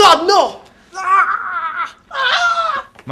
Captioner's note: screams